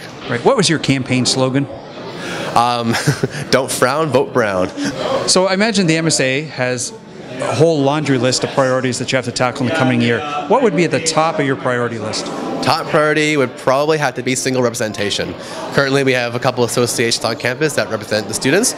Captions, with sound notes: What was your campaign slogan? [ Laughs ] >> "Don't frown, vote brown." >> So I imagine the MSA has a whole laundry list of priorities that you have to tackle in coming here. What would be at the top of your priority list? >> Top priority would probably have to be single representation. Currently, we have a couple associations on campus that represent the students,